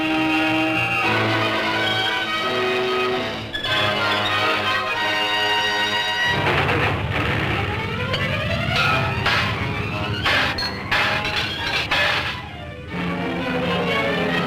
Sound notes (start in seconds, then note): 0.0 triumphant music; 6.7 metal clanking; 6.7 suspenseful music